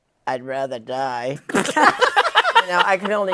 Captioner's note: laughter